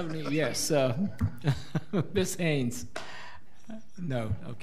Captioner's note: laughs